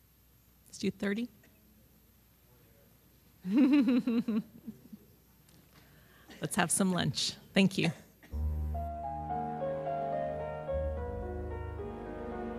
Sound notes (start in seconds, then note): 3.5 laughing; 8.3 downbeat music